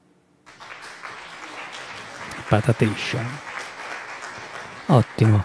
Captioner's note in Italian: Applauso